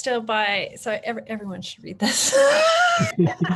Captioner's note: laughing